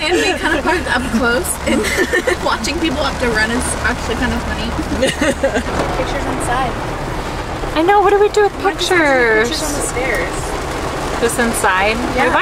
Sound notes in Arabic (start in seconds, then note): 4.7 تضحك